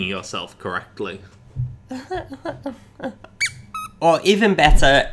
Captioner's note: nervous laugh